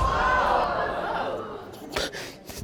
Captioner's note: audience groans